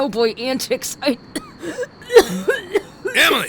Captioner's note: Emily doubles over coughing